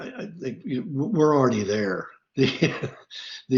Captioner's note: laughs